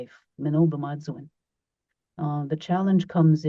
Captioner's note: speaks in Cree